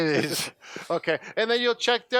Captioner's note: laughs